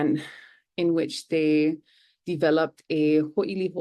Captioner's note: foreign language